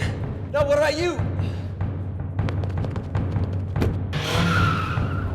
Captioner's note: sighs; tires screeching; engine revving